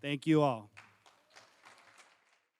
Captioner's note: applause